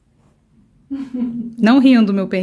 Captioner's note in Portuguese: risos